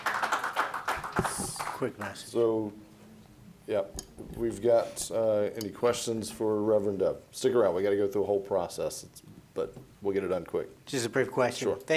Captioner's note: applause